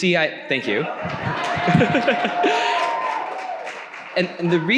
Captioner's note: audience cheering